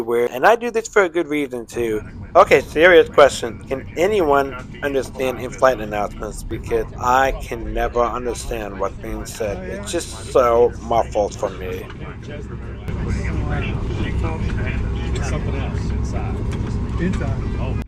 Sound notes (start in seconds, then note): 2.2 voiceover